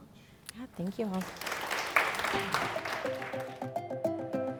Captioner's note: applause